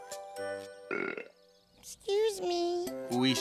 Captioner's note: burps